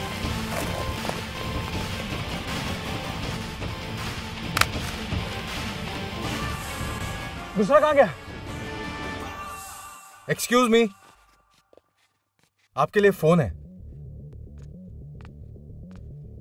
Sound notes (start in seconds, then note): 4.6 clicking sound